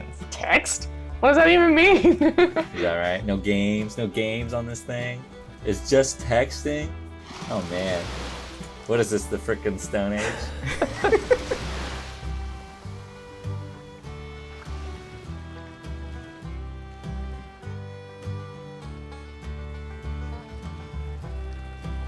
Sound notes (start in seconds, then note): 10.2 laughter